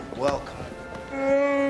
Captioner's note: groans